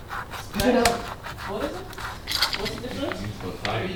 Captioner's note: chattering